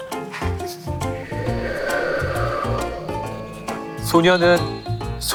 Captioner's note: A sound effect of wind